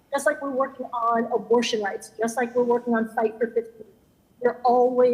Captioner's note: ~audio distortion~